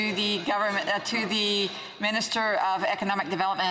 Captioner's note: speaking french